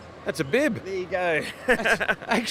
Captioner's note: laughs